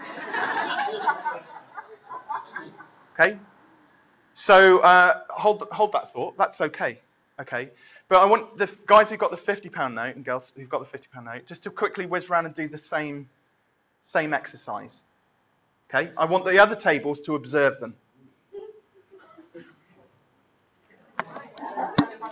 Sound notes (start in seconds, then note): 0.0 laughter; 18.8 chattering